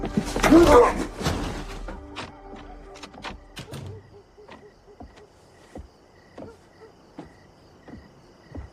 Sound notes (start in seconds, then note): 2.0 thud